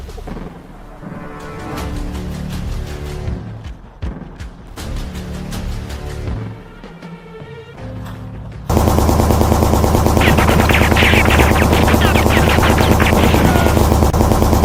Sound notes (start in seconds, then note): 8.7 gunshots banging